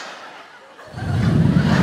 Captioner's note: blowing; audience laughing